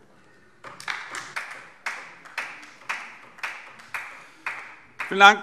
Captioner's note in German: Beifall DIE LINKE